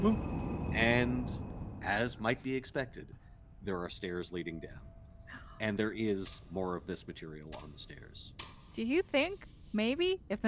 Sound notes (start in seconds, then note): none